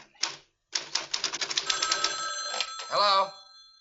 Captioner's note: phone ringing